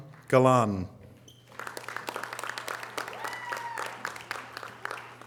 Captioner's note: audience applause